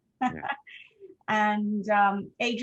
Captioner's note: laughing